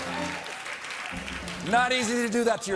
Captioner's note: applause